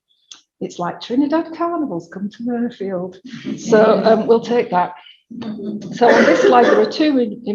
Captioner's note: audience laughs